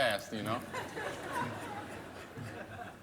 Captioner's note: laughter